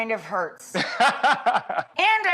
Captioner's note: doctor laughs